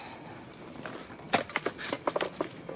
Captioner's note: sighs; firewood d hits ground